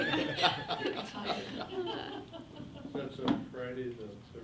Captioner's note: everyone laughs